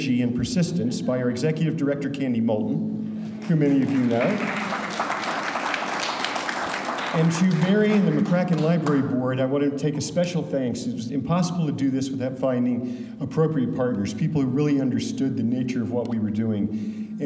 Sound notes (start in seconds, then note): 3.4 audience applauding